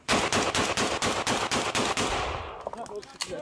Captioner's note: gunfire